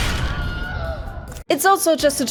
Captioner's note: Wilhelm scream